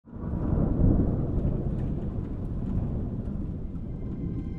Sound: wind blowing; thunder rumbling

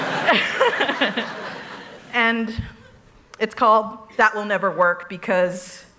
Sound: laughter

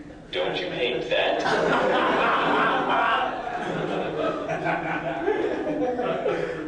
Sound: laughter

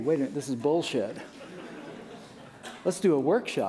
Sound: laughter

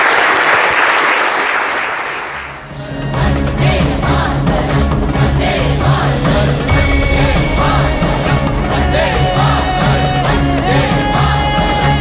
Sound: applause

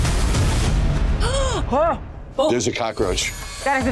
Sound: all gasp

